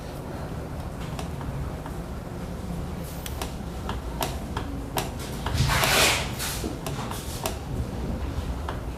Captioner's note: print head noise